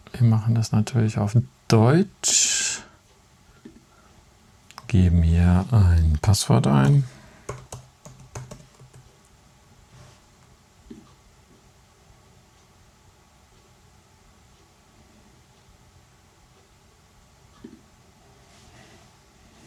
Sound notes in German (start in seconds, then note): 7.4 tippt auf Tastatur